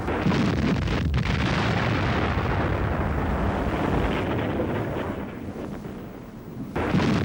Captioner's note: ship explodes